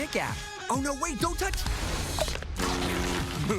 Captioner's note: ferry horn